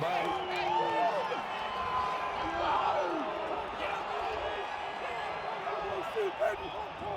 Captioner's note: enthusiastic chatter